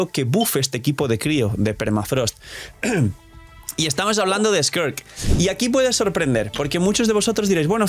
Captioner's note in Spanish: carraspeo